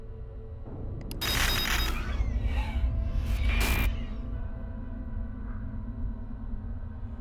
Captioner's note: static crackling